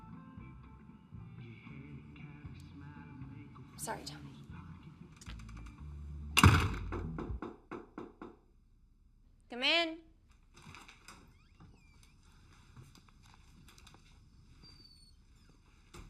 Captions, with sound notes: Sorry, Tommy. [knocking on door] Come in.